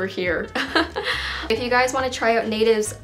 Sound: chuckles

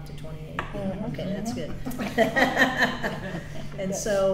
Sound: laughs

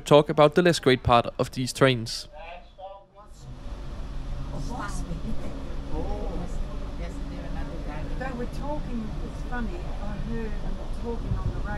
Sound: background chatter

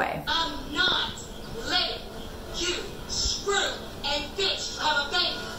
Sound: TV show playing

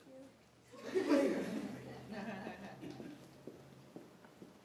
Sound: laughter

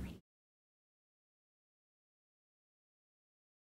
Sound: silence

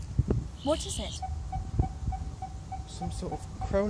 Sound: continuous beeping

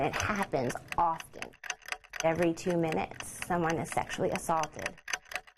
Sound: clock ticking

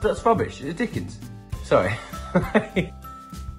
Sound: laughs

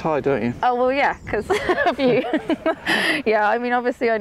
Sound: laughs

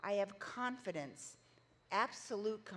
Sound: none

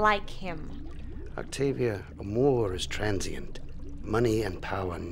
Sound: speaks in foreign language

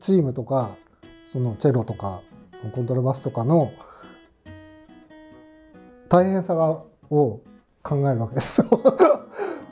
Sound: laughing

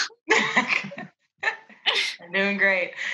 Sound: laughing

